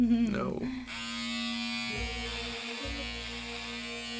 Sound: hair clippers buzzing

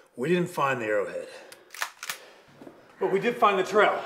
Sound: gun cocks

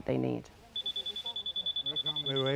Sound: detection alarm

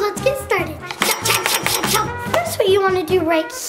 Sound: scissors cutting

